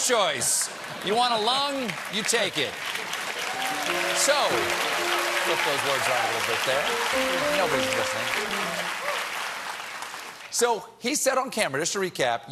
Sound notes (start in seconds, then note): 3.1 applause; 3.8 piano riff